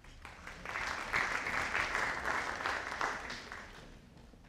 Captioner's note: audience applauding